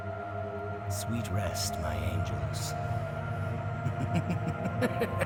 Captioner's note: laughs maniacally